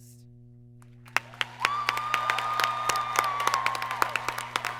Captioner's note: applause